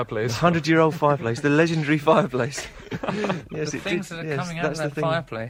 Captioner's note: laughter